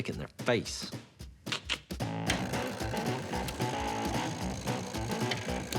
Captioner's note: rattling